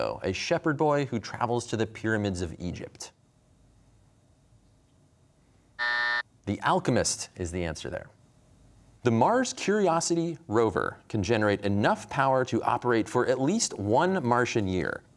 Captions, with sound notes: a shepherd boy who travels to the pyramids of Egypt? (buzzer) The Alchemist is the answer there. The Mars Curiosity rover can generate enough power to operate for at least one Martian year,